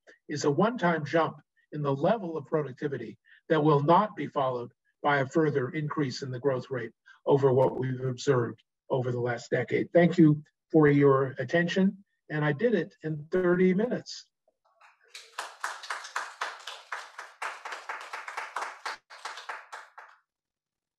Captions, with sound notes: is a one time jump in the level of productivity that will not be followed by a further increase in the growth rate over what we've observed over the last decade. Thank you for your attention. And I did it in 30 minutes. [APPLAUSE]